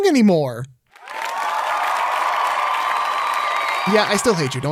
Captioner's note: cheers and applause